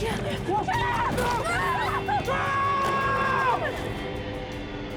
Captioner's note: screams